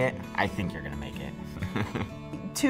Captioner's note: laugh